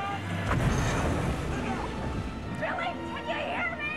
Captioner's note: water thudding